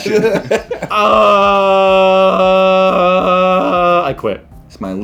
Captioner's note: groaning